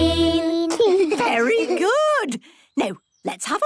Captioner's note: children giggling